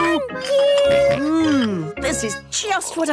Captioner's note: snorts